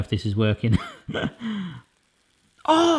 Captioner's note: laughs